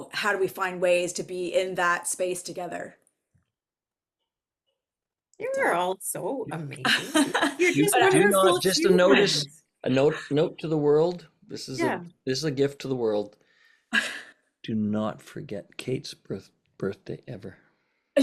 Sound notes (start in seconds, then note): 6.8 laughter